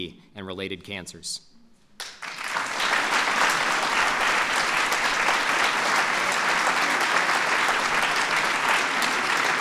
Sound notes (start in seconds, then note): 4.9 applause